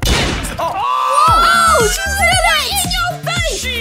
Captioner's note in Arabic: نيران البنادق